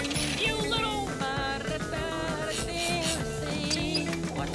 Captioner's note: humming